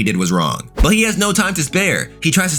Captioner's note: air whooshing